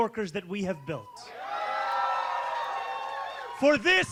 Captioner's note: cheering